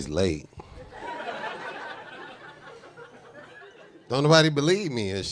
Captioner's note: audience laughing